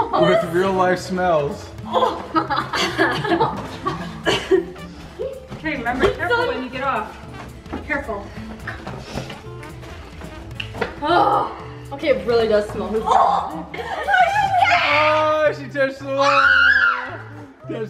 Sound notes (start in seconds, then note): 11.7 groans